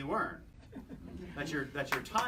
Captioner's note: chuckles; applause